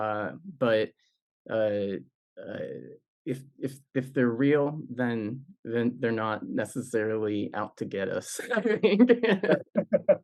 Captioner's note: laughs